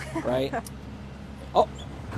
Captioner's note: woman laughing